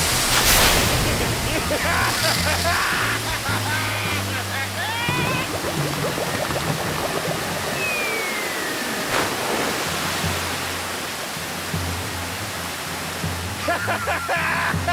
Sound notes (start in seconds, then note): 0.4 maniacal laughter